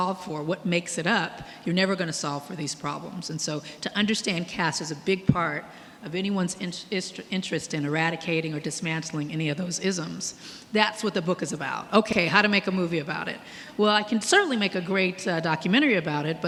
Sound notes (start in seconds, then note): none